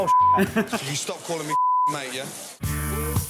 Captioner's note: beep; bright music